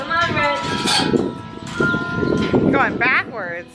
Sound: bells ring

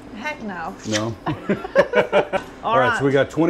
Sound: laughing

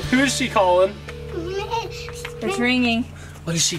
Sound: ringing

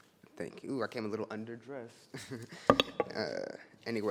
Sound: chuckles

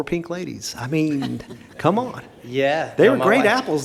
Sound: board laughs

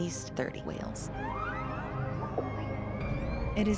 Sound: whales calling

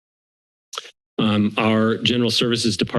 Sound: clicks tongue

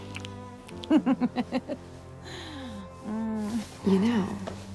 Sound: giggles

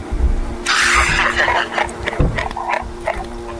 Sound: camera men laugh

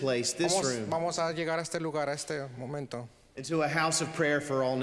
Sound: translating in foreign language

